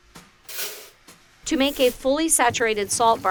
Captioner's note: salt clatters